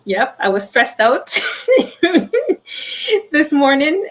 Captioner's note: laughing